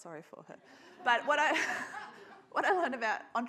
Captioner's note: audience laughs